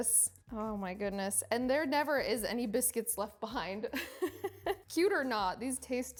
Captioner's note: chuckles